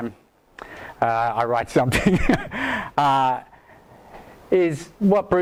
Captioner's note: laughs